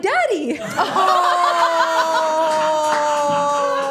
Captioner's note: everyone laughing